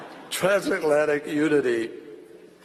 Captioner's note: laughter